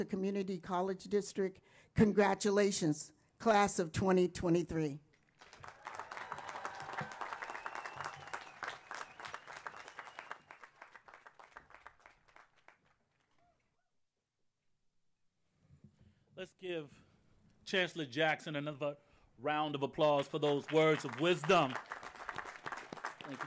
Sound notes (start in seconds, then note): 5.3 applause; 21.6 applause